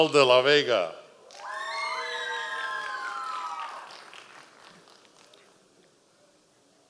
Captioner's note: members of the audience cheering